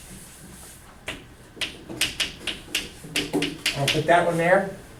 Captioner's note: chalk clicking on board